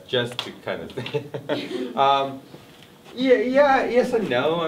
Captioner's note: laughs